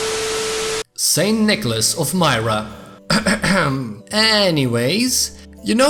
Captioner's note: clears throat